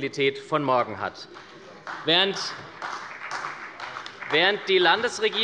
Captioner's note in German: Beifall bei der SPD